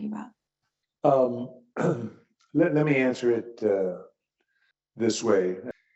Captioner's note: cough